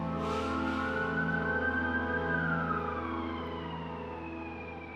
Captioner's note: fire truck alarm